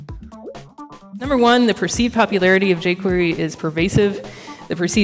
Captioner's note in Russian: закадровый голос